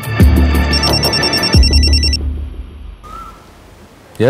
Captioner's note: Phone ringing